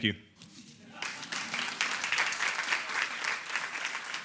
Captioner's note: applauding